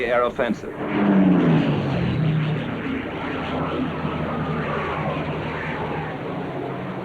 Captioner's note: aircraft engines